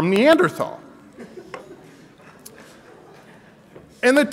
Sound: audience laughs

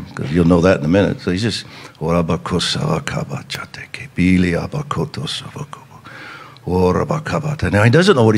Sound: speaking in tongues

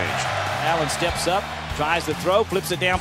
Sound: voiceover

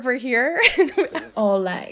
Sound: laughing

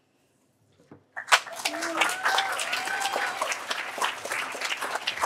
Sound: applause

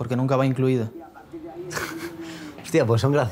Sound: he laughs

